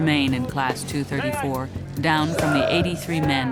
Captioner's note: voiceover